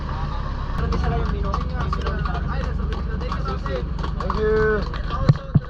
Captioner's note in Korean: 마무리 박수